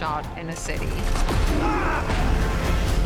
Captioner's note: screams